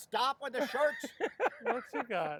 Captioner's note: laughing